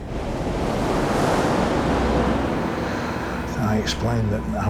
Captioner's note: water rushes